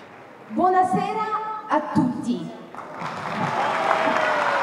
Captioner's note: in Italian